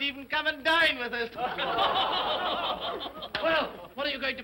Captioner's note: all laugh sardonically